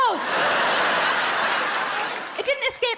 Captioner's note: audience laughs